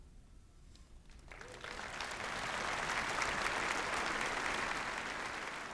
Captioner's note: applause